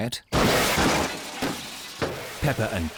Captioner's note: clattering